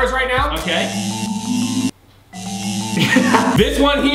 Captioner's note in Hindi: इलेक्ट्रिक बज